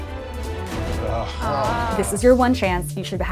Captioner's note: presenters groan